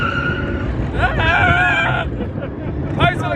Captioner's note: screaming